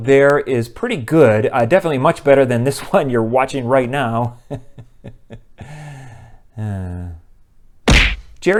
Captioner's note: laughter